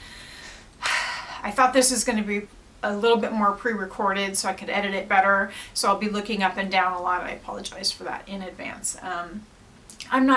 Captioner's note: sigh